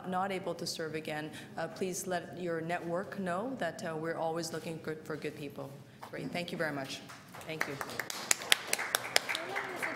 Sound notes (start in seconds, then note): 7.2 applause